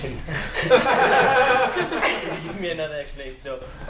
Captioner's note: laughter